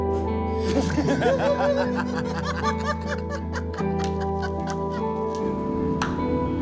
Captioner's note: laughter